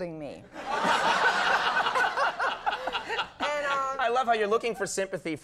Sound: audience laughing

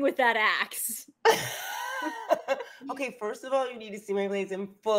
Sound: laughs

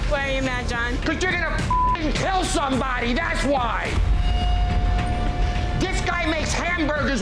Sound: beep

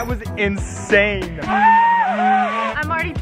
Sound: screaming

